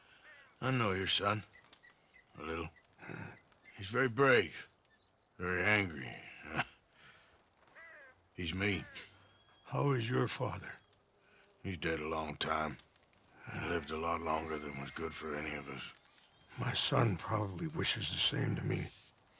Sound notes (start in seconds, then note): 8.4 chuckles; 18.4 small chuckle